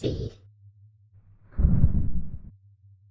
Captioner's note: rumble!